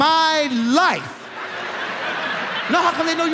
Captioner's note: audience laughs